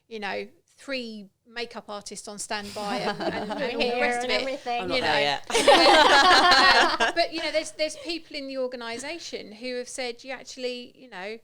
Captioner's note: laughing